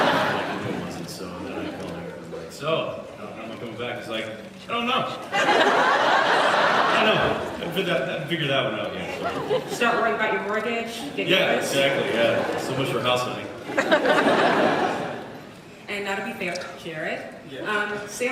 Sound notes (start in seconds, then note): 0.0 laughs; 5.6 laughs; 13.7 laughs